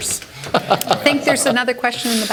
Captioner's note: laughter